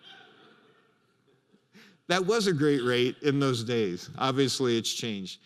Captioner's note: laughter